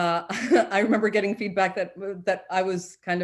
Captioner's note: chuckles